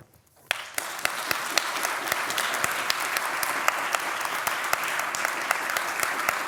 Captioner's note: applause